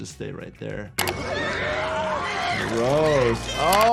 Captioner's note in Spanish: Elsa y Walter gritando